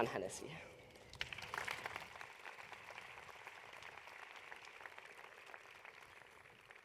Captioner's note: applause